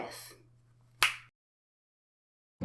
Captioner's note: clicks Fingers